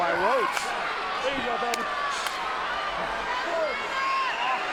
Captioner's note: hands clapping